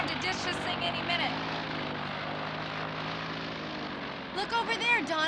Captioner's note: engine whirring